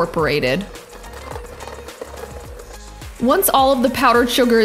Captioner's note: mixer buzzing